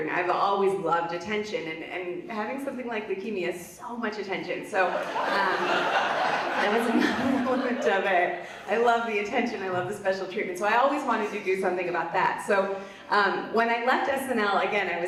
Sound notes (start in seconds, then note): 4.8 audience laughs